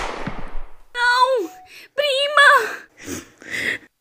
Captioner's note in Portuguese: choro